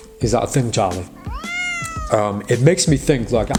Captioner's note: cat meows